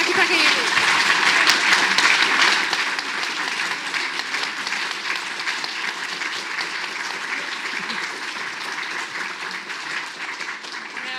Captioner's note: audience applauds